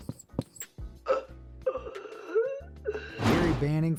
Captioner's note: man wheezing